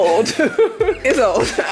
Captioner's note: laughing